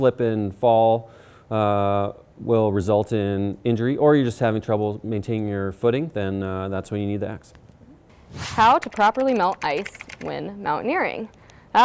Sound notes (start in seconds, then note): 8.1 air whooshing; 8.6 keyboard clicking